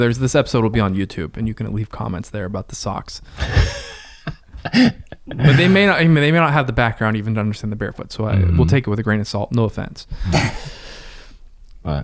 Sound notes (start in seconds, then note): 3.4 laughs; 10.2 chuckles